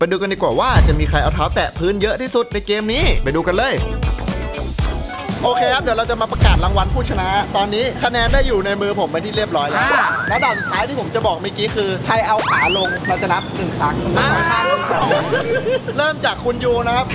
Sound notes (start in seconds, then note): 14.2 laughs